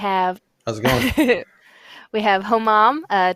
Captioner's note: laughs